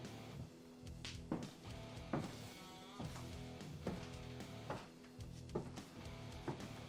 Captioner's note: high heel footsteps circle around bed